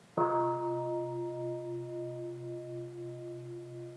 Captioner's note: sound of the gong